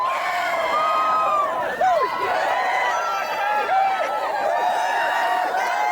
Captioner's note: crowd cheering